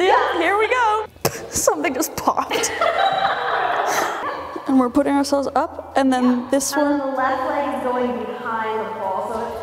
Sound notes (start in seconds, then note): 2.6 laughing